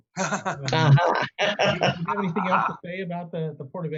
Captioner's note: laughing